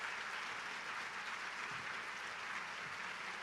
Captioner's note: applause